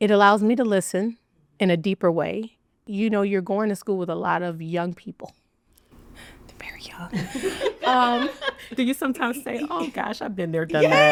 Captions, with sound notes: - It allows me to listen in a deeper way. You know, you're going to school with a lot of young people. They're very young. (attendees laughing) - Do you sometimes say, oh gosh, I've been there, done that?